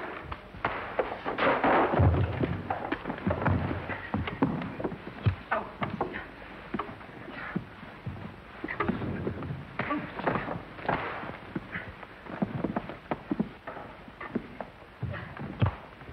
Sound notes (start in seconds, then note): 5.9 grunts and groans